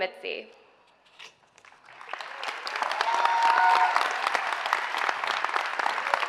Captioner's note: audience applauds and cheers